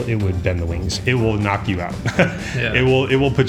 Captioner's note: laughs